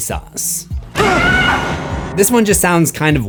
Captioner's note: screams